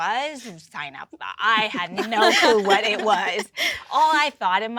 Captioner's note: women laughing